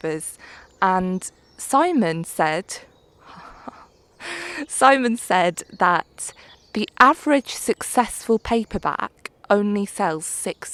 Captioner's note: laughs